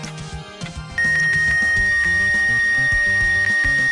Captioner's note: yet more X-ray beeping